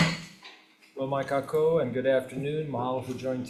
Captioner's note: speaking foreign language